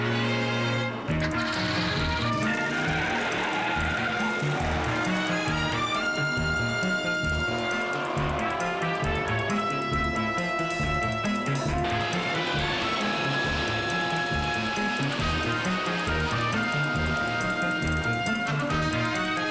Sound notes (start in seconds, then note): 0.0 intense music; 2.2 car engine rumbles; 4.4 tires screech